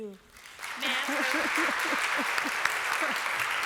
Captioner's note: applause